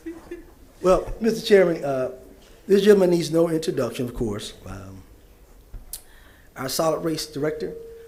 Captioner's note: laughter